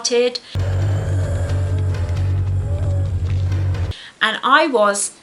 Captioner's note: zombie groaning